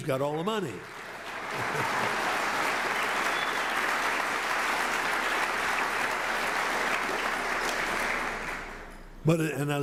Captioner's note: applause